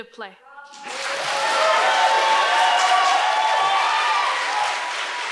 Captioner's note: audience cheers and applauds